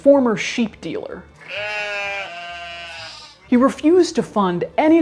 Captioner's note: sheep bleating